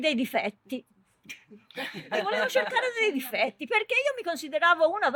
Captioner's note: laughter